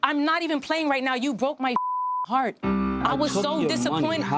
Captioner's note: beep